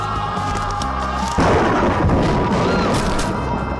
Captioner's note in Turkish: Bağırma sesleri; Gök gürültüsü sesi; Bağırma sesi